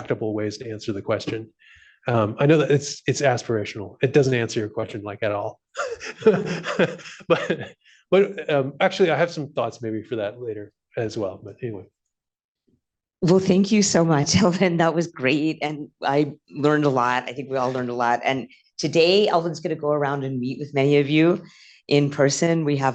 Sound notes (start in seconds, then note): 5.8 laughs